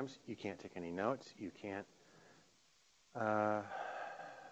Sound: sighing

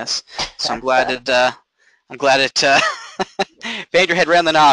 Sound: chuckling

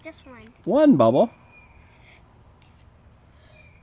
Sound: voiceover

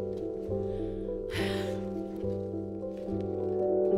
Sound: sighs

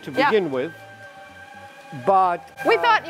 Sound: machinery whirring

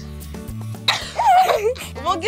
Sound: laughing

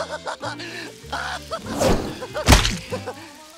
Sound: laughing

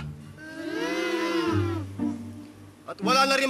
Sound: crying

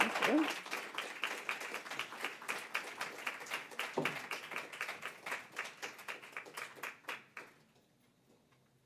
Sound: applause

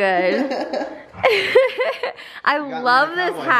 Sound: laughs

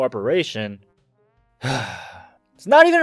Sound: sigh

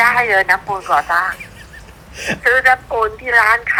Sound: laughing

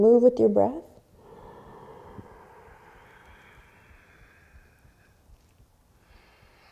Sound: deep breathing

